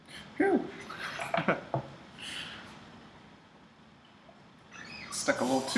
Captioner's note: giggles